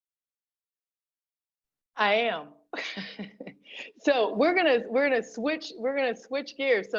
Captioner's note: laughter